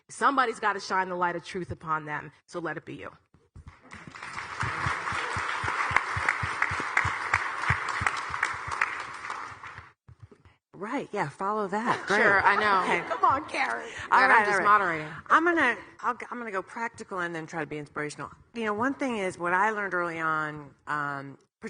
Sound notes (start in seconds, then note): 3.6 audience clapping